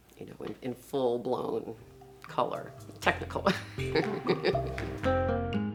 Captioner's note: laughs; exotic rhythmic music